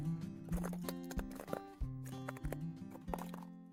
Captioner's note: that soothing crunching sound